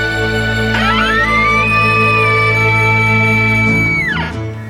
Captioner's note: elk bugle